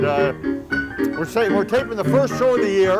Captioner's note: teeth click